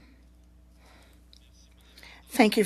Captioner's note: silence